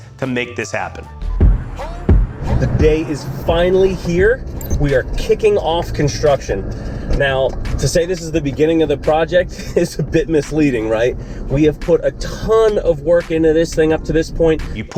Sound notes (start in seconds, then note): 1.8 upbeat music; 10.1 laughs